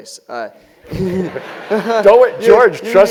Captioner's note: laugh